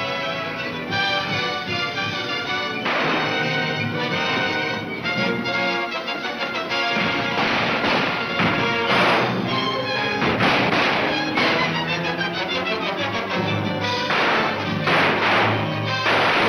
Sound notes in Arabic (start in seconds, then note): 2.8 اطلاق نار; 7.4 اطلاق النار بالبنادق